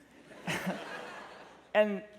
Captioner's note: laughter